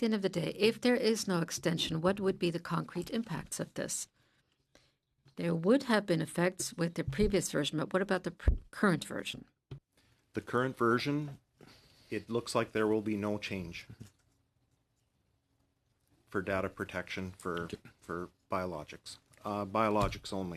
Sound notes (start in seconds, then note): 3.3 speaking French